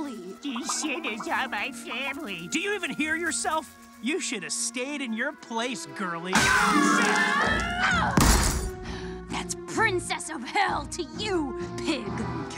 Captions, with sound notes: - "These sinners are my family." Do you even hear yourself? You should have stayed in your place, girly. Oh shit! (Charlie yells) - That's princess of hell to you, pig.